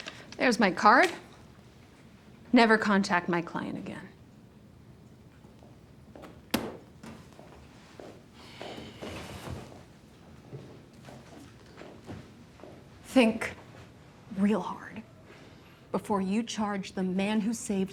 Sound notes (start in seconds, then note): 7.7 man sighs